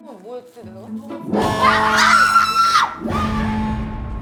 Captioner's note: siren ON